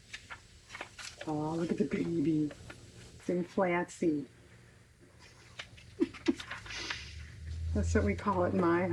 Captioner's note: laughs